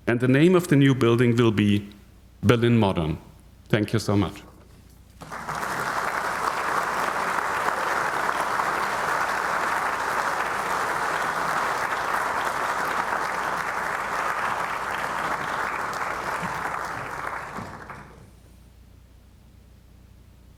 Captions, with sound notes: And the name of the new building will be Berlin Moderne. Thank you so much. (audience applauding)